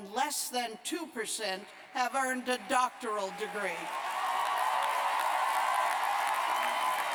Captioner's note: cheers and applause